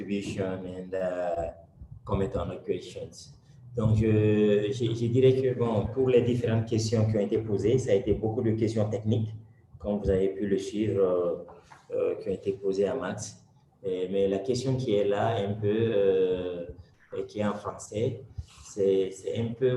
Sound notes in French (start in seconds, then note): 3.8 Speaking in French